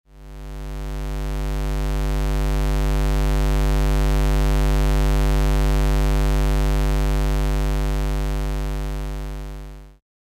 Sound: square wave sound

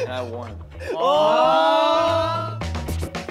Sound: all exclaiming; upbeat music

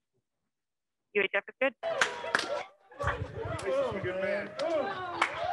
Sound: scientists cheering

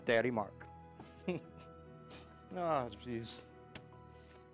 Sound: chuckles

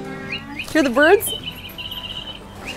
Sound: tweeting sound from the door

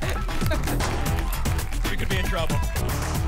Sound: applause and cheering

